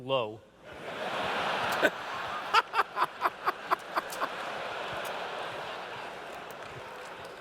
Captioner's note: laughter